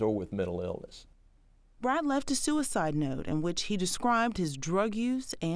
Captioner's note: voiceover